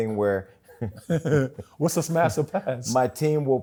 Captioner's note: chuckles